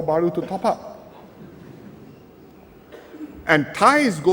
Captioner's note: laughter